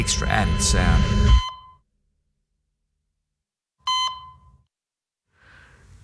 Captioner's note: cardiac monitor beeping